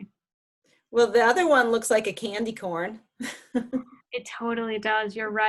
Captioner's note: laughs